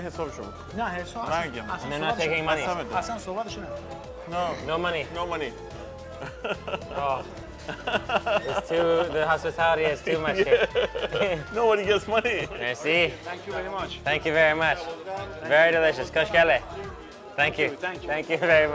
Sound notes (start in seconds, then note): 0.1 men speaking foreign language; 5.7 laughs; 6.1 laughing; 11.5 laughing; 16.3 speaking foreign language